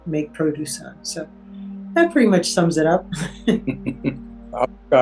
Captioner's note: laughs